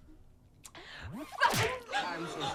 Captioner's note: slapping noise